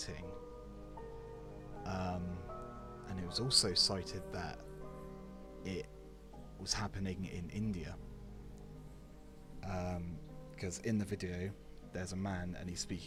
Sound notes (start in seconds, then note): none